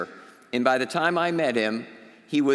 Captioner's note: none